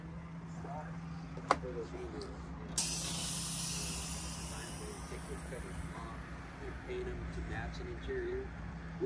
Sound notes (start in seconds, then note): 2.8 coach hissing